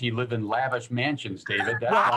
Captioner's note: laughter